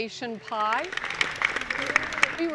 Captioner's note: applause